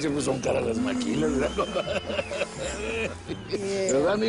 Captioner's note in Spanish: Risas